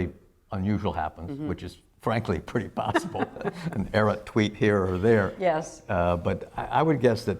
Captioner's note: laughter